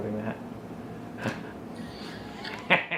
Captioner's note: laughing